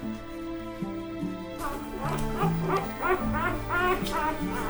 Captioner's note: puppies squeak